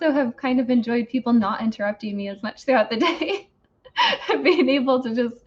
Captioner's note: laughs